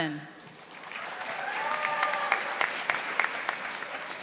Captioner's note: audience applauding